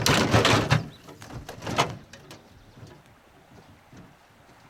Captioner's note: birds singing